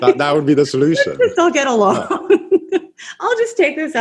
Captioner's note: laughs